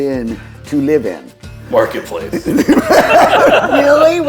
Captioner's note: everyone laughing